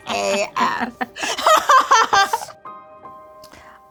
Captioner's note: laughing